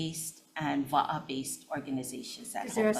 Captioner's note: speaks foreign language